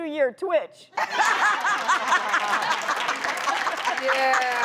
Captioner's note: audience laughs